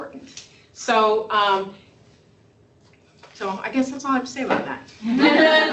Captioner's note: laughter